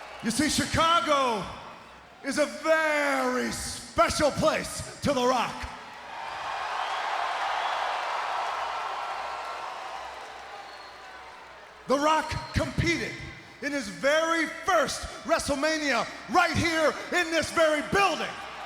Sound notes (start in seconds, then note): 5.8 crowd cheering